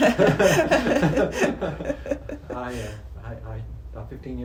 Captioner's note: both laugh